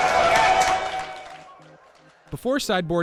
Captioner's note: crowd cheers